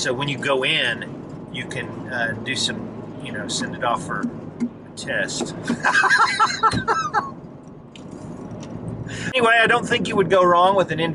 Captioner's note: laughing